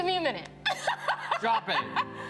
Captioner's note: laughs